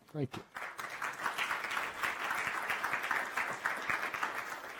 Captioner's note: audience applauding